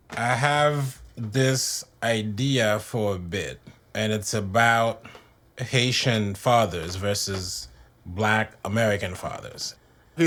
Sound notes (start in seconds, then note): none